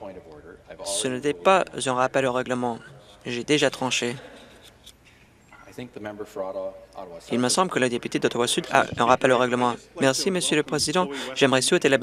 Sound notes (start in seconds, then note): none